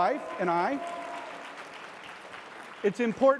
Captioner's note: audience applause